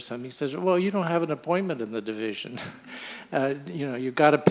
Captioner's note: chuckles